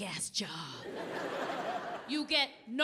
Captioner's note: audience laughing